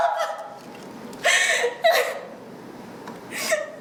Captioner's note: sobbing